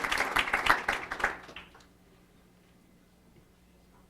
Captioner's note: applause